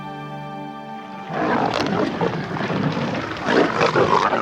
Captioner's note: growling